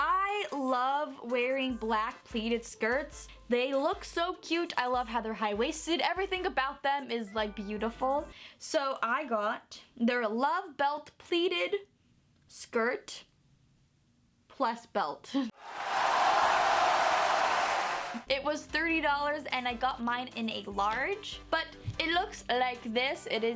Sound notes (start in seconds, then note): 15.5 crowd cheering